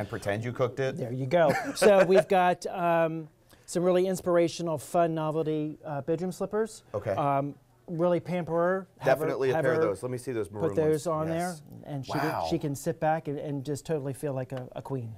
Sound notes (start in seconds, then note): 1.4 laughter